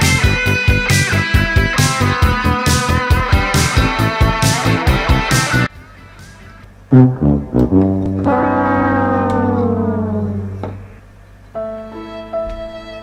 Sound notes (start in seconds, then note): 6.9 fail Sound; 11.5 sad Music